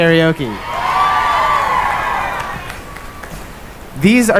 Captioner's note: cheering